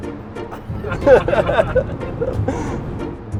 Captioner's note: laughter